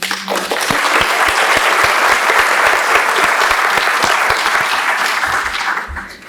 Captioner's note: applauds